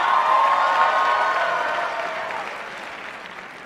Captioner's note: applause